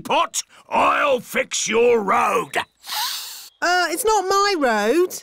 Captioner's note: sniffs